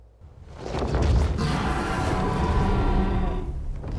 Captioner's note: dragons growl